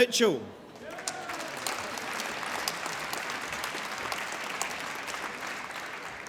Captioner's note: applause